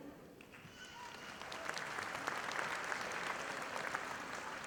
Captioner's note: audience applauding